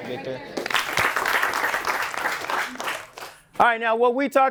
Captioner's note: applause